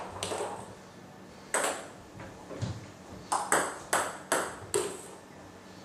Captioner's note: balls ping pong hitting continues